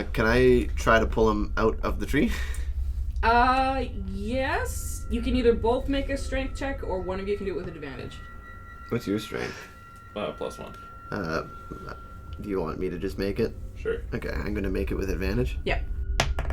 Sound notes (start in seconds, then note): 3.5 slowly, considering